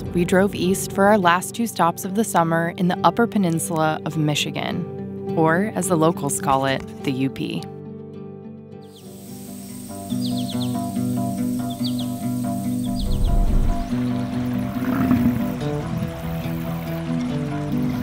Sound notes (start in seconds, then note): 8.8 birds chirping; 12.9 water sloshing; 15.2 bison lowing